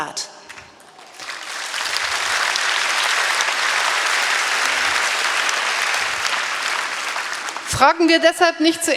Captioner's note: applause; speaking in German